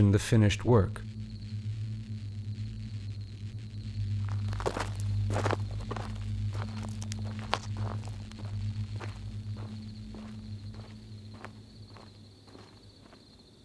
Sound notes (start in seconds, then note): 1.8 insects chirping